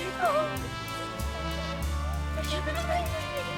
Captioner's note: chattering